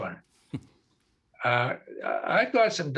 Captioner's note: chuckling